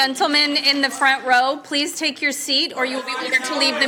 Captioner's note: crowd noise